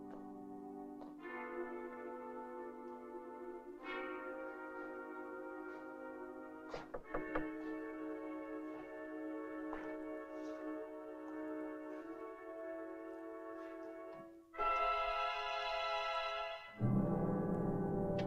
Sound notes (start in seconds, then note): 6.6 shuffling Footsteps</i> <i>Departing; 7.0 knocking Quietly